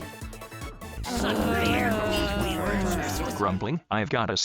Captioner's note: grumbling